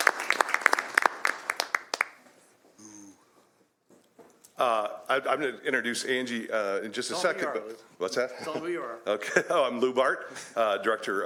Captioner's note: applause